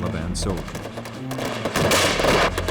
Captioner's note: gunshots